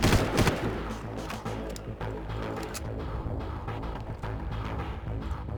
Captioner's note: gun firing